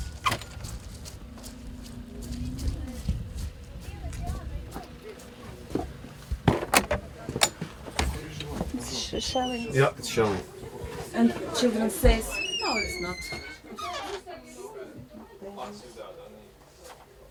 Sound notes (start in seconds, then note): 6.3 door squeaks